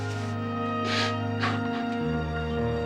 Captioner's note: sobbing